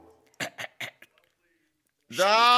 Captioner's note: clears throat